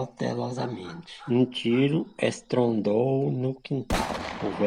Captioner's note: sound of a gunshot echoes